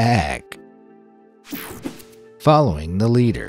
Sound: logo whooshing

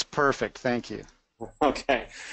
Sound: laughs

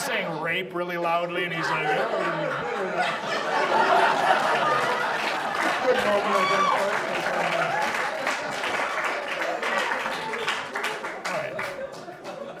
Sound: audience laughs

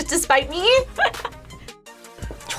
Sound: laughs

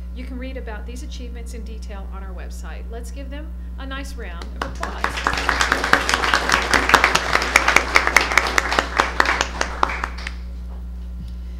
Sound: applause

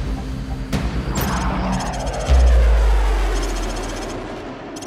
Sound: jet roaring

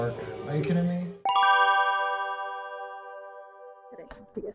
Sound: heavenly Bell Chimes

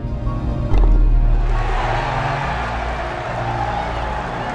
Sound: crowd cheering

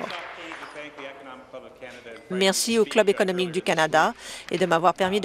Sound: applause

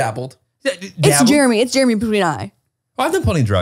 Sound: mumbles the name

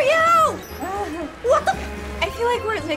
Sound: chuckles

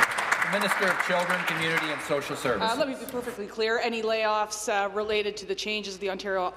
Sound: applause

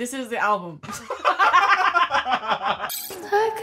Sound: both laughing

